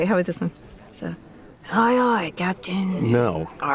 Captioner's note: imitating pirate